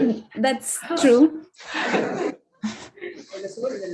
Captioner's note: audience laughs